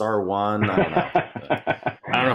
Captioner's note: laughing